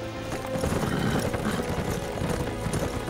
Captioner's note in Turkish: At kişniyor